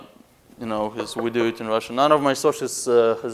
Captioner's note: knocking on wood